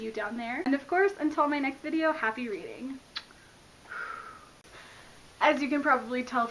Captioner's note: blows kiss